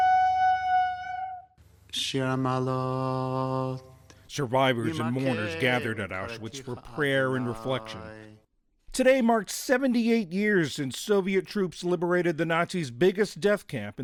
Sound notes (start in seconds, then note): 6.7 speaking foreign language